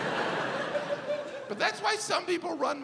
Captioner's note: audience laughs